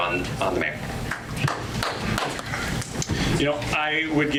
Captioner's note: audience applause